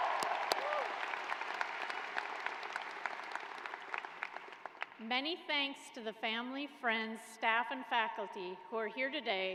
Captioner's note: cheers and applause